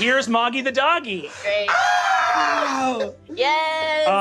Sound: Ally and Murph screaming joyfully

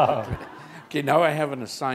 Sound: chuckle

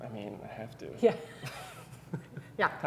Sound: chuckles

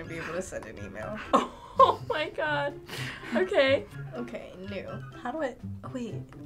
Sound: laughs

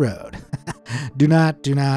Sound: chuckles

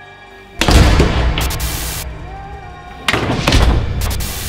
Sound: doors slamming

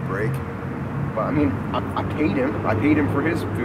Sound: stammers

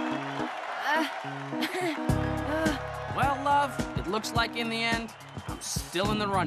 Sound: cheering; nervous chuckling

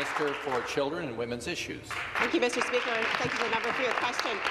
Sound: applause

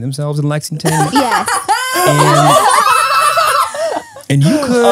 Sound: everyone laughs

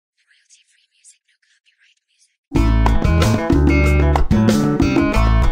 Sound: whispering

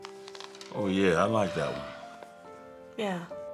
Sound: Kelly sighs

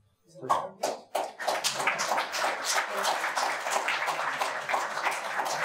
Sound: audience applauding

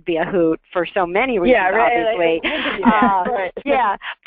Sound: voiceover

